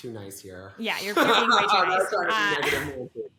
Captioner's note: both laugh